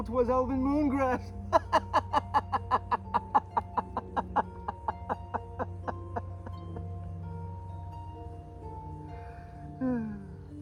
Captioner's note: hearty Laughter